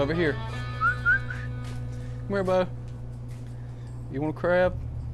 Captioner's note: whistles